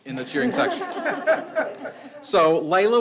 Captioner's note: audience laughs